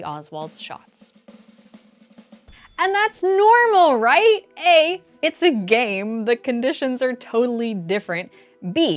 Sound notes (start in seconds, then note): 1.1 dramatic pause